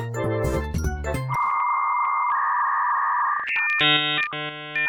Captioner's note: dial-up tone blares